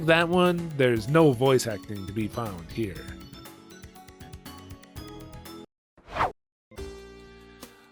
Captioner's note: whoosh